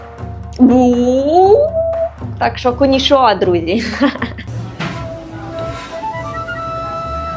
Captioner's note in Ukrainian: сміх